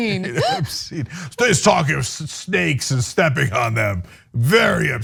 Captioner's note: laugh